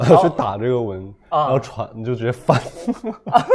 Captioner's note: laughs